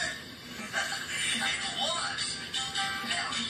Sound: laughs

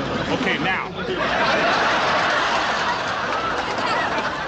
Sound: audience laughs

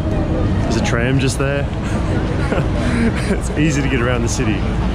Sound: chuckles

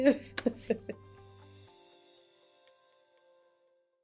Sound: laughs

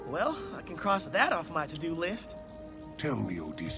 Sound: none

